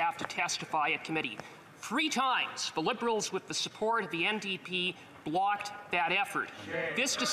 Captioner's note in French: voix de l'interprète